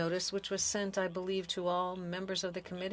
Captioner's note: speaking French